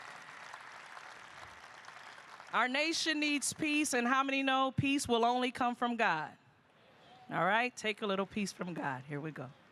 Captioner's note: applause